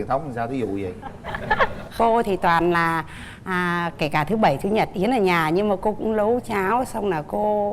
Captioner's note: laughing